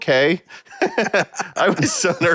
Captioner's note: laughing